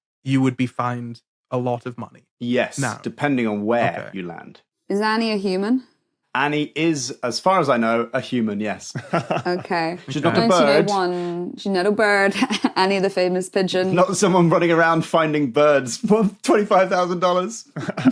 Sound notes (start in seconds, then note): 8.9 chuckles